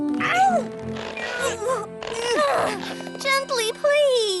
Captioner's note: groaning